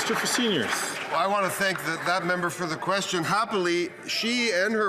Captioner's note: applause